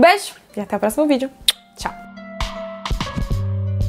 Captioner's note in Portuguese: beijo estalado